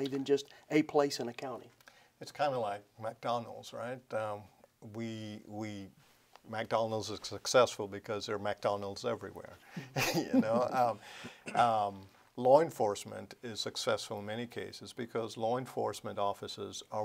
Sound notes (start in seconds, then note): 9.8 laughs